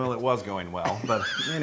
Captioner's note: laugh